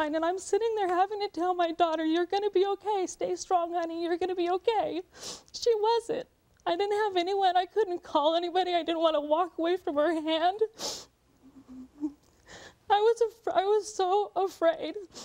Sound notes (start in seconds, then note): none